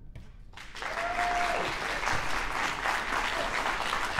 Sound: audience applauding

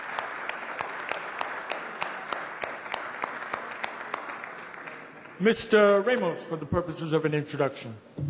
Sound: applause

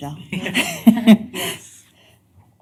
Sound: laughter

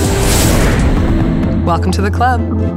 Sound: jets whooshing

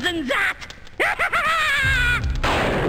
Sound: DR. PICKLES cackles

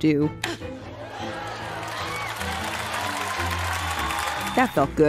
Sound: smack; audience applause

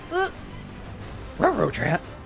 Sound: grunting

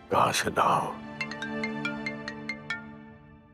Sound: phone ringing

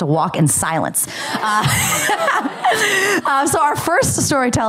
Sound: laughter

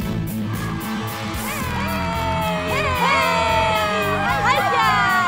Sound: cheering

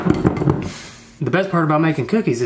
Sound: sighs

